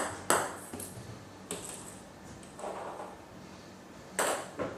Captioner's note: balls ping pong hitting continues